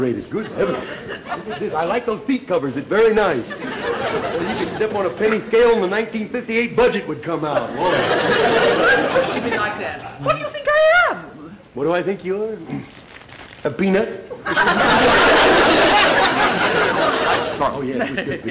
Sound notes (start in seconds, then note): 7.4 audience laughter; 14.4 audience laughter